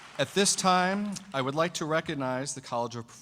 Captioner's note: applause